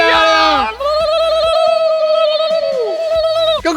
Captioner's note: cheering sounds